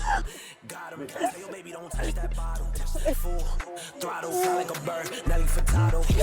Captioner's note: rap music; ladies crying